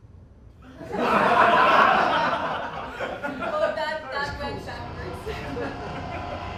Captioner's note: laughter